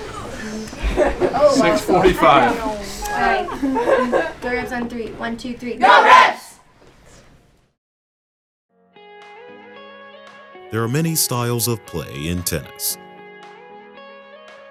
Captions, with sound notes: [groans and laughter] Six forty-five. [team chattering] The Rebs on three, one, two, three. Go Rebs! There are many styles of play in tennis.